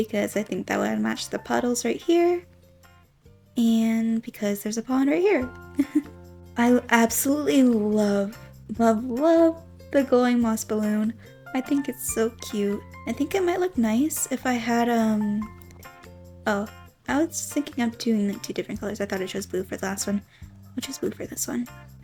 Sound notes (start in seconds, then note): 5.7 giggles